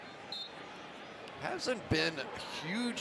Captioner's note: whistle